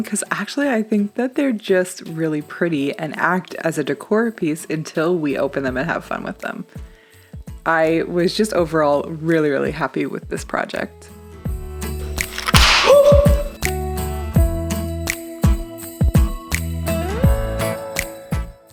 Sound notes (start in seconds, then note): 11.3 cheerful music; 12.2 ornament cracks